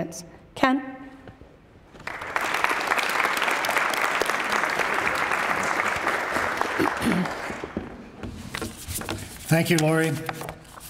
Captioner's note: applause